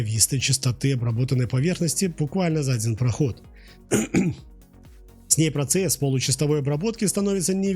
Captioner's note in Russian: откашливается